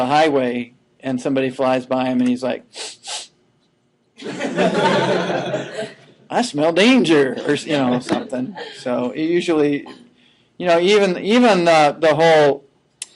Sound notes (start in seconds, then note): 2.8 sniffing; 4.2 laughing